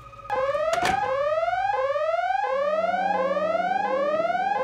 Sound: alarm blares

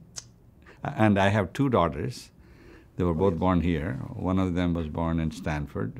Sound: laughs

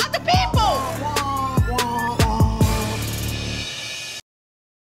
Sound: drones

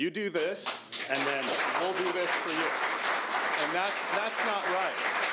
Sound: audience applauding

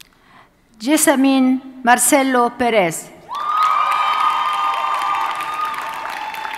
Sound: audience cheers and applauds

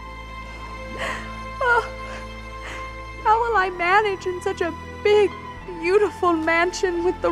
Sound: crying

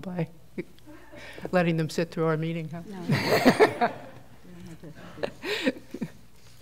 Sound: laughter

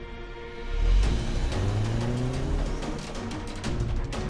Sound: car moving

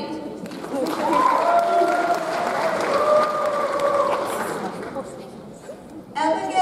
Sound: audience applauds; audience cheers

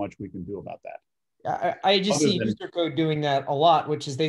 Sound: sharp Voice

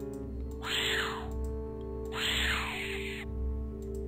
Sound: bat Screeches

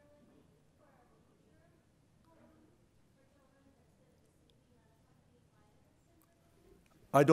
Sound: audio fades out

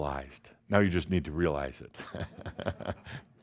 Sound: Adamus chuckles

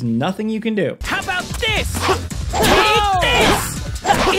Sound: character groans

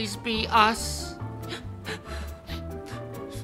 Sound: sobbing

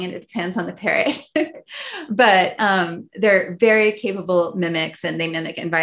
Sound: laughs

